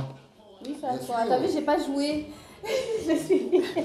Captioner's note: laughs